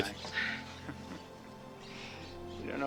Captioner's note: chuckles